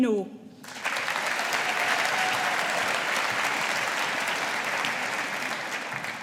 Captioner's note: audience applauding